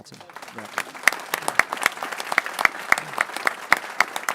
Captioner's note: people clapping